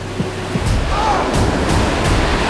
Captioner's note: grunts